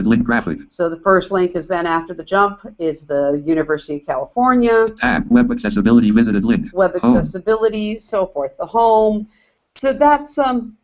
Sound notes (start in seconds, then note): 4.5 JAWS speaking